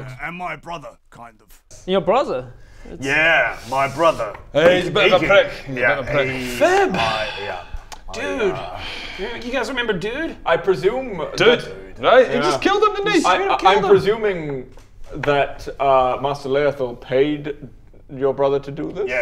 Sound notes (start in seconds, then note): 6.9 sigh